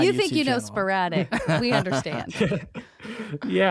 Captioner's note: laughs